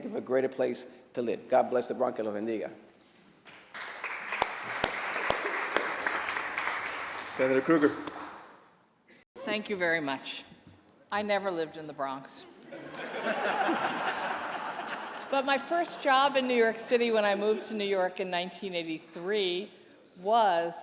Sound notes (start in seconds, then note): 5.2 applause; 14.3 laughter